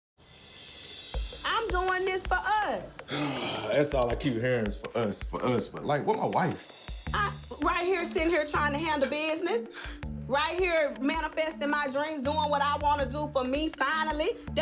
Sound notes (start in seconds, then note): 3.0 sigh; 9.5 scoff